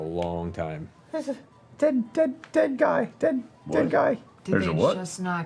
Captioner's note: stuttering